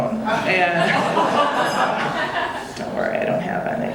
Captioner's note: audience laughing